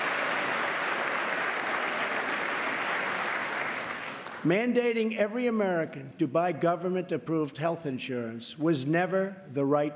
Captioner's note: applause